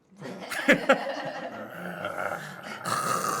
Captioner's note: laughing